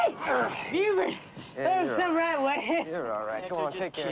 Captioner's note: laughing